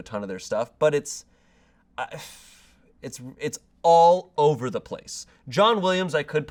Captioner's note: sighs